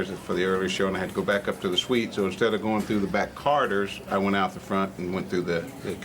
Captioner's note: none